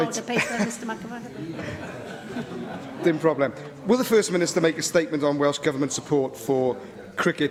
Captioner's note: laughter